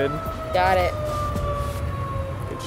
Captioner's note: fire department sirens